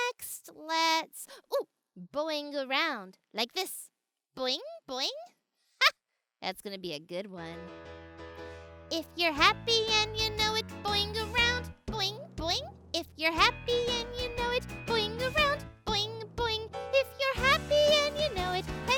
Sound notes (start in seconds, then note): 5.4 laughs